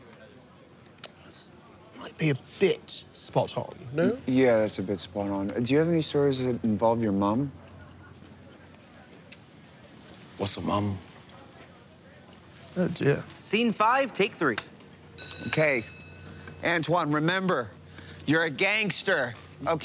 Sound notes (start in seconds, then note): 14.5 click; 15.1 bell ringing